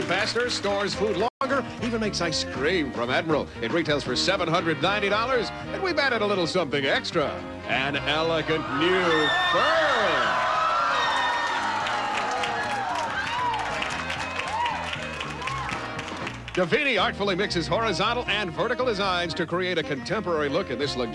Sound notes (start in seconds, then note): 11.9 audience cheering